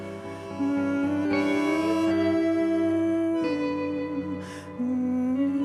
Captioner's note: continues humming